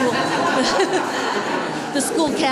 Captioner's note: laughing